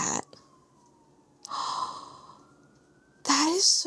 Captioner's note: gasps